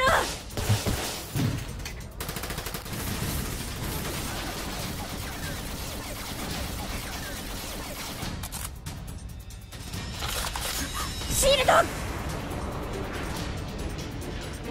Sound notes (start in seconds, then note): 0.2 gunsots; 5.4 more gunshots